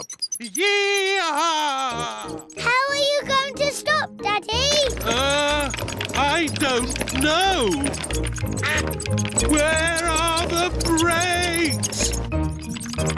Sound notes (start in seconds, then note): 8.6 quacking